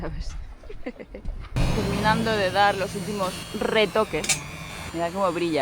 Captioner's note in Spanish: risas